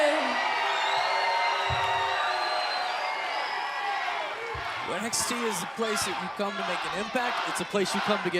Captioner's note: crowd cheering